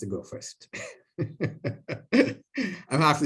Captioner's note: laughter